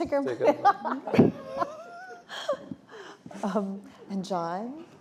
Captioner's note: laughter